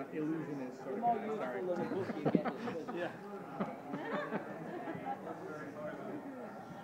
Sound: laughs

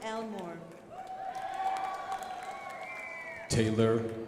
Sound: crowd applauding

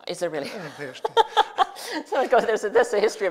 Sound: laughs

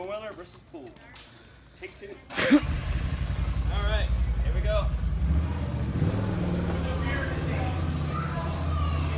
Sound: engine Rev

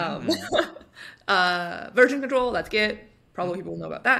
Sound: chuckles

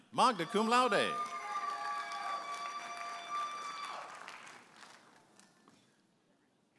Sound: audience applauding and cheering

